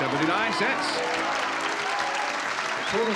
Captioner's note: applause